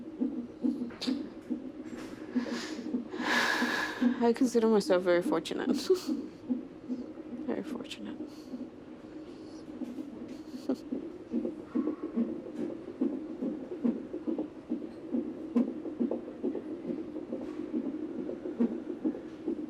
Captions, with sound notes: (sighs) I consider myself very fortunate. (laughs) Very fortunate. (fetal heart beating)